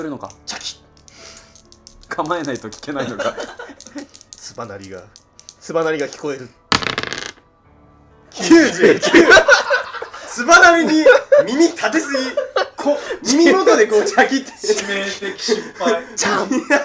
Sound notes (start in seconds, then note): 3.0 laughing; 8.4 laughing